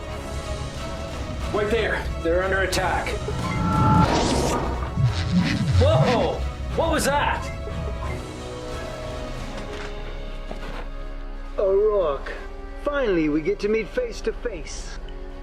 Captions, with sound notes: - Right there. - They're under attack. (electronic whirring) Whoa, what was that? (exciting instrumental music) - O'Rourke. Finally, we get to meet face to face.